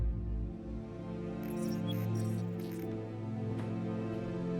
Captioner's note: robotic beeps